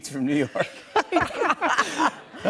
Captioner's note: laughter